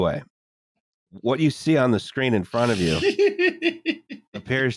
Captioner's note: giggles